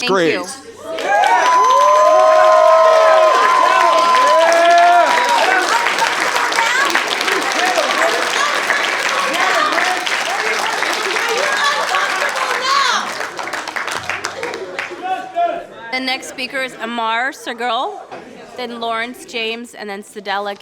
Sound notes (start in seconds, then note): 9.6 applause